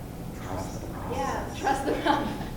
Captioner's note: voiceover